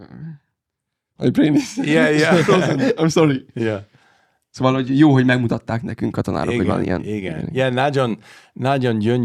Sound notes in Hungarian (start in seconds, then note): 2.9 idegen nyelven beszélve